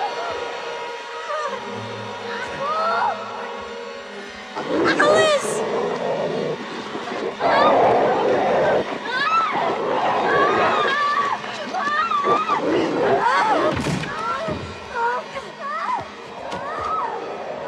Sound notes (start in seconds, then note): 7.4 screaming